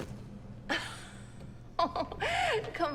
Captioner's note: Elaine laughs